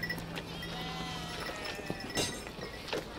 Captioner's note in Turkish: Demir dövme sesi